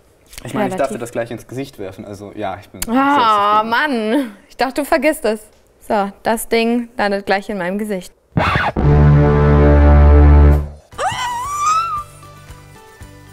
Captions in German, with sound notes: Ich darf dir das ins Gesicht werfen. Ja, ich bin zufrieden. - Mann! Ich dachte, du vergisst es. Das Ding landet gleich in meinem Gesicht. (Dramatische Musik) (Sie quietscht.)